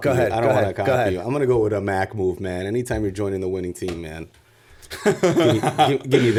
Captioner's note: chuckle